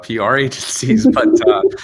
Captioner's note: laughs